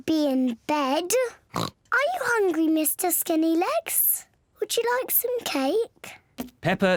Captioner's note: oinks